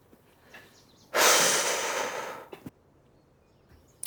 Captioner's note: sigh